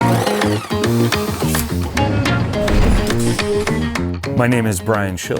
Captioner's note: drill whirring; lively music